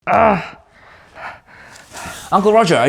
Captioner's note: speaker grunts